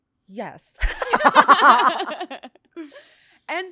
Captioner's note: laughs